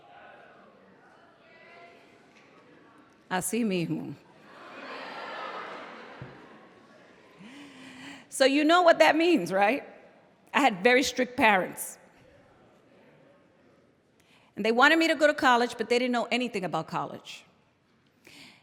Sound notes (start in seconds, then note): 3.3 non-english speech